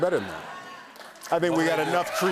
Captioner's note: cheers and applause